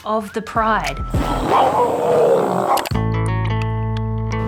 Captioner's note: roars